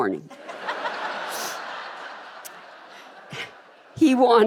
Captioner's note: audience laughing